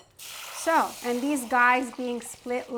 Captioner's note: faucet spraying